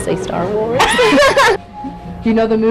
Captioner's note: laughs